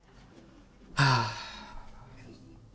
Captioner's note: sighs